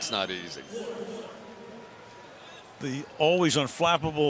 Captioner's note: pa announcement